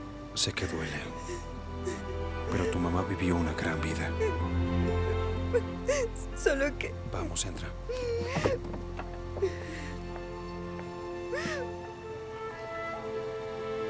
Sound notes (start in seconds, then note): 4.4 Llora; 7.8 Esperanza solloza